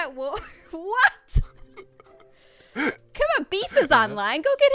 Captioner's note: laughing